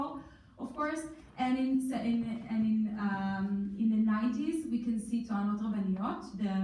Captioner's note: in foreign language